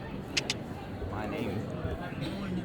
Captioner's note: kissing